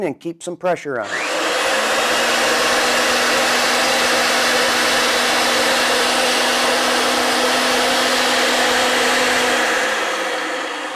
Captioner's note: RIDGID® 916 Running